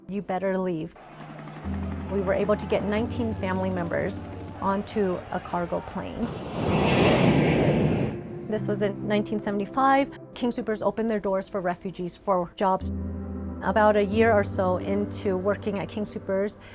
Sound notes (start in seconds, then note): 1.0 helicopter, Crowd Walla; 6.8 howl of plane engines at take off